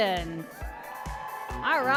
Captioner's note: applause and cheering